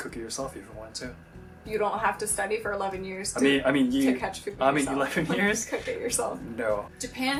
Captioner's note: laughing